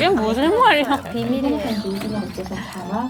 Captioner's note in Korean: 속닥